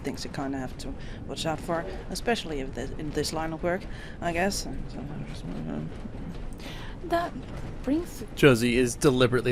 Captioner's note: trails off, mumbling to himself